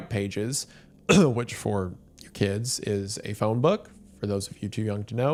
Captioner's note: clears throat